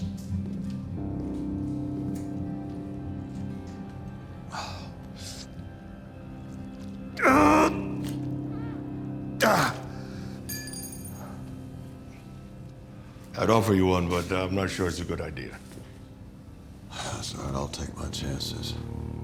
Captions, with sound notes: (Tommy wincing and groaning) (metal clangs) I'd offer you one, but I'm not sure it's a good idea. - It's all right, I'll take my chances.